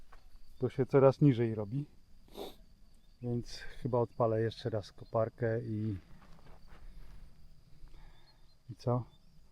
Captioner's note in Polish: parsknięcie